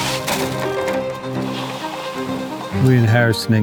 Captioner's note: oysters rattling; water hissing